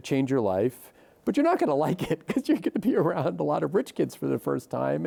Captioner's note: chuckles